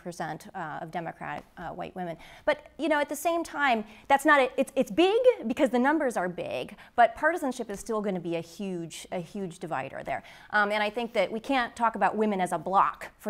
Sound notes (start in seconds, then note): none